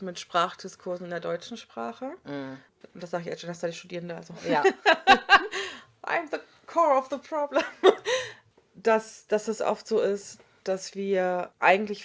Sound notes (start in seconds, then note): 4.4 both laugh; 8.2 laughs